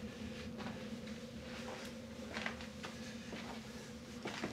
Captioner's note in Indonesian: suara langkah kaki